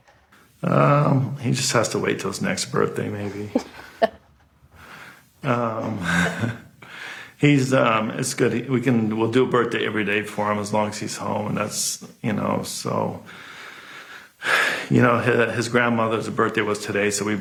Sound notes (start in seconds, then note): 3.6 laughter